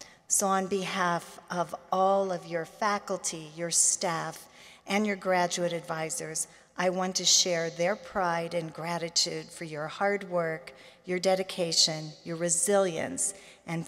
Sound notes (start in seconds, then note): none